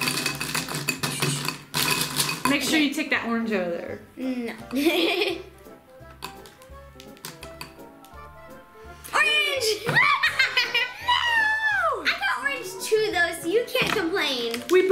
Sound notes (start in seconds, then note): 4.6 laughs; 6.2 upbeat music